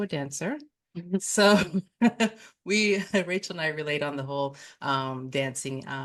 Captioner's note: chuckles